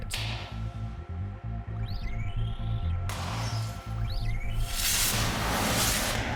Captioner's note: popping, sizzling